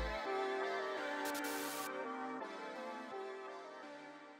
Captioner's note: static buzzing